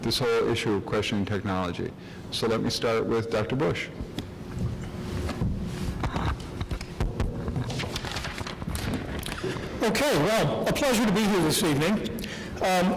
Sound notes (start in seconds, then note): 5.6 rustles papers; 6.9 taps mic